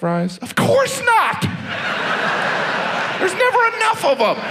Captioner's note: audience laughs